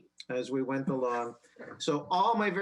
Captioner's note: laughs